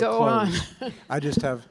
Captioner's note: laughs